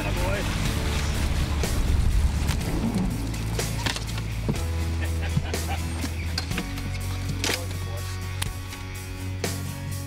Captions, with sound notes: - That a boy. (laughs) That's what we're looking for.